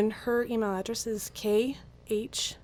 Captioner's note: none